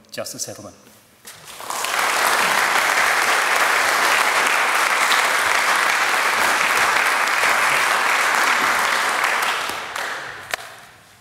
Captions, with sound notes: Justice Edelman. (APPLAUSE)